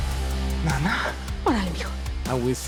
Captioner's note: speaking Spanish